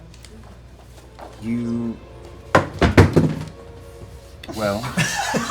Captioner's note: clattering